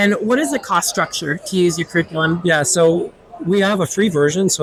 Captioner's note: crowd chattering